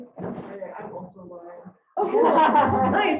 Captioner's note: audience laughter